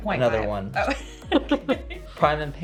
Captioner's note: laughs